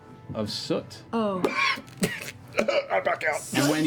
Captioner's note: coughing